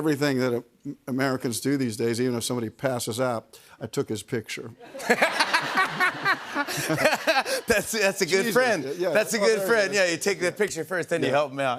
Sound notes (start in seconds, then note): 4.8 laughter